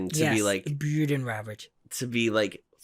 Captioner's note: Downton Abbey voice